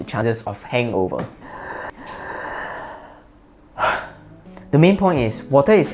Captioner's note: breathe